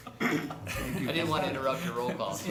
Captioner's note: laughter